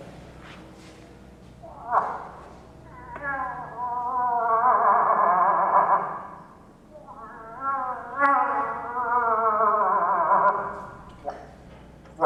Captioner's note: moose call